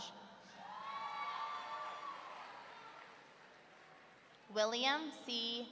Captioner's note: audience cheering